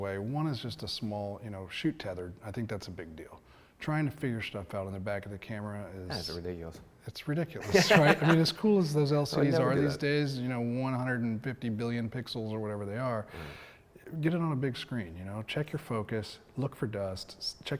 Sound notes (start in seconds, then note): 7.6 laughs